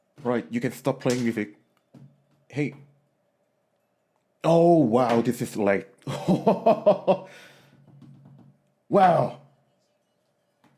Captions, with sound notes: Alright, you can stop playing music. Hey. Oh wow, this is lagged. [laughter] Wow!